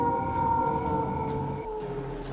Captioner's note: Eric howls